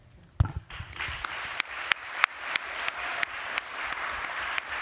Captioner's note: applause